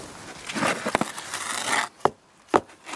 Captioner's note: scratching noises